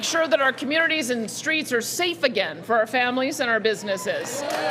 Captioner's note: cheering and Applause